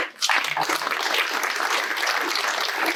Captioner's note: applause